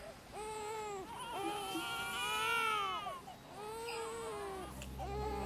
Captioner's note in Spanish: Llantos